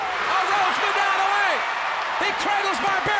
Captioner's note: audience cheers